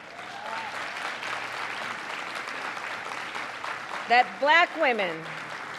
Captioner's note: applause